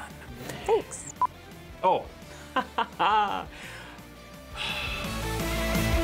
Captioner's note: sighs